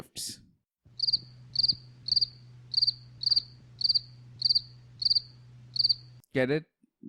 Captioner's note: cricket